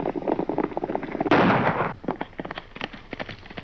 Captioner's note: gunshot